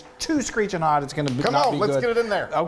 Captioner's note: claps